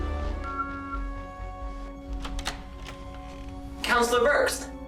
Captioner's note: door beeping